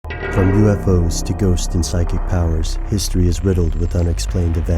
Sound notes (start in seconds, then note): 0.1 voiceover